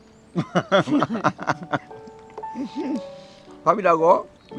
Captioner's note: both laughing